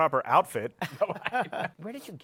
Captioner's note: laughter